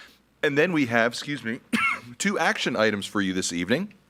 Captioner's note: coughs